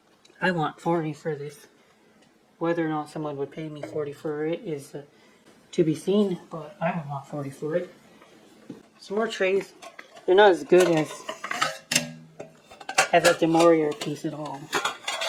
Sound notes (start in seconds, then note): 9.7 sound of metal trays scraping against each other